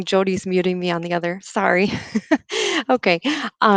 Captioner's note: laughs